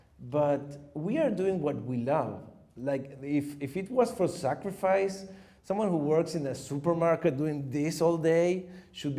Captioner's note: none